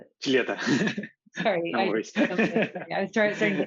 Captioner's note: laughter